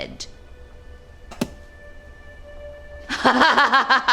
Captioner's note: object thuds; Claire laughing